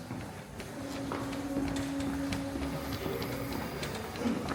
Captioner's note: footsteps tapping